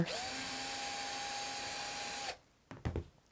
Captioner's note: drilling